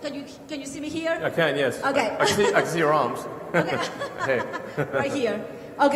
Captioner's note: laughter